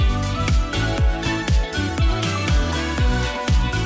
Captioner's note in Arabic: none